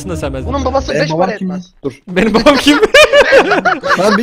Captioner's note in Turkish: herkes güler